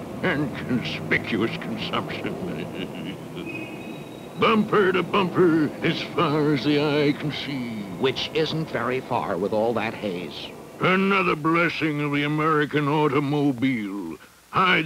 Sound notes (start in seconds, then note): 1.9 chuckles